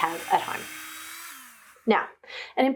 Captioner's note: drilling whirring